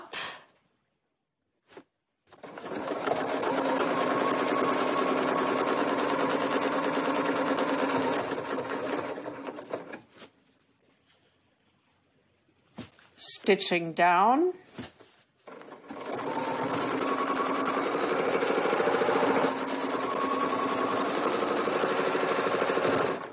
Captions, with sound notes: Going up. [sewing machine whirring] Stitching down. [sewing machine whirring]